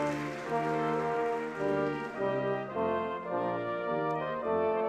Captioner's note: audience clapping